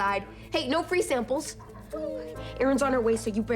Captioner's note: dog whines